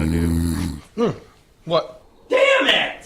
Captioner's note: bear snoring